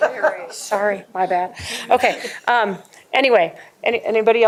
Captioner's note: laughter